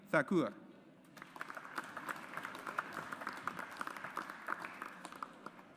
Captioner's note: audience applauds